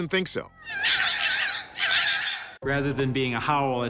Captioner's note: foxes chirping